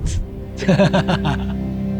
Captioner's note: laughs